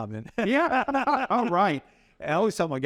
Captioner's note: both laugh